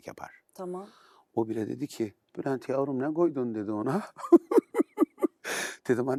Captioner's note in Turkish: kahkaha